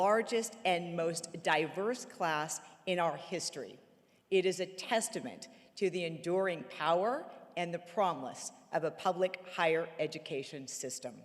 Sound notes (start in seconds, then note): none